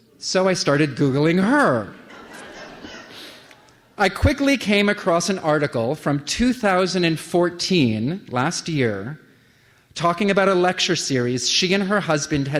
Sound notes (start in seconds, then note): 1.9 laughter